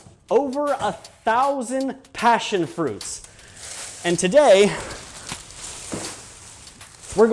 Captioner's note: vines rustle